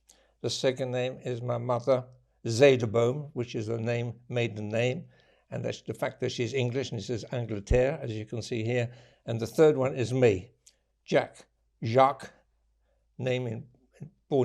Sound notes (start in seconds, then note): 7.6 french